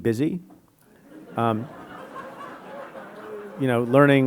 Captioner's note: audience laughing